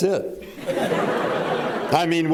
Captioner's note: laughter